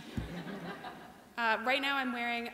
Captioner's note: laughter